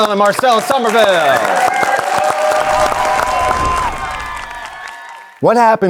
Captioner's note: audience applauding; audience cheering